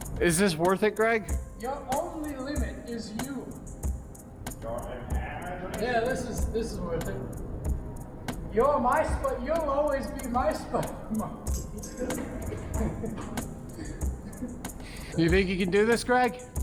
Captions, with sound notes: Is this worth it, Greg? Your only limit is you. Your imagination! Yeah, this is worth it. You'll always be my spider moneky *laughs* You think you can do this, Greg?